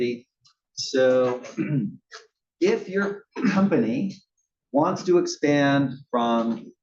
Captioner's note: cough